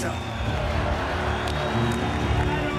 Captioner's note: crowd cheering